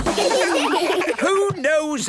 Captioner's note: children laugh